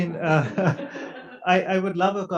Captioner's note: audience laughs